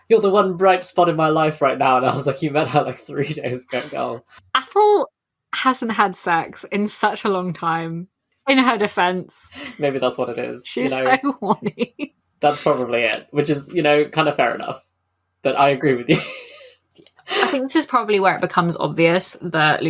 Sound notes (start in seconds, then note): 10.7 laughing